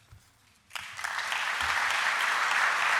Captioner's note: applause